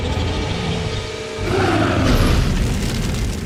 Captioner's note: roars